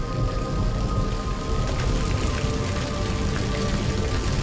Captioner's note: fire burning